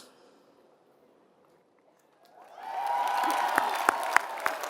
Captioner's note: applause